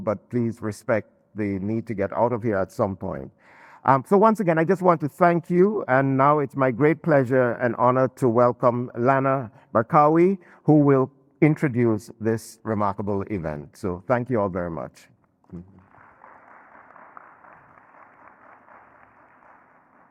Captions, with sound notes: but please respect the need to get out of here at some point. So once again, I just want to thank you. And now it's my great pleasure and honor to welcome Lana Barkawi who will introduce this remarkable event. So thank you all very much. (audience and panelists clapping)